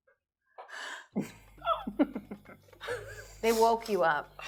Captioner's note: laughing